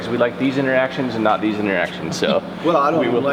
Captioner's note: deputy laughing